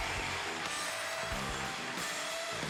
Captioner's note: applause